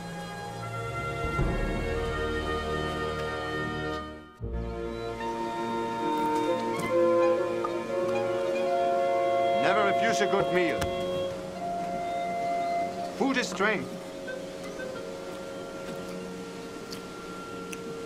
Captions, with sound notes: (dramatic orchestral music) (running water) - Never refuse a good meal. Food is strength.